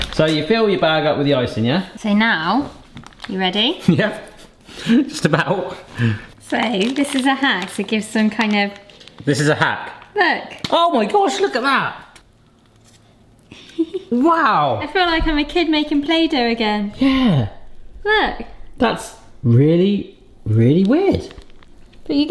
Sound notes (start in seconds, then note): 4.1 chuckling; 13.5 giggles